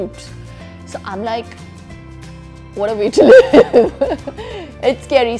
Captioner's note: laughs